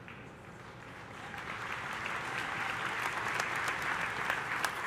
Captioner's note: audience applauding